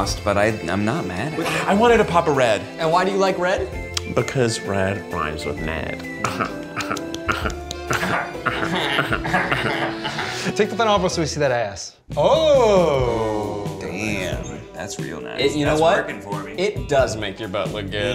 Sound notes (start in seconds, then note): 6.2 Keith laughs; 12.0 sensual music